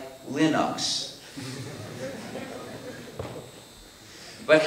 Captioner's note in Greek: Μουρμουρητά και γέλια στο ακροατήριο